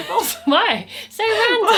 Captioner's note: laughing